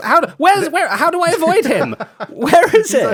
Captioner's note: laughs